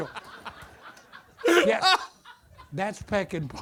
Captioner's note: audience laughter